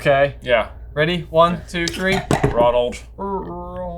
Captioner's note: boards clack